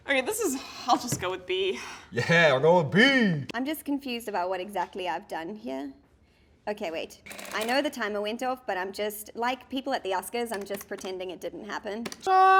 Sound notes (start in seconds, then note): 7.3 adding machine whirs; 12.4 singing